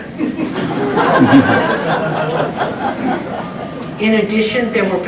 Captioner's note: laughter